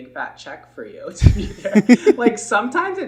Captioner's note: laughing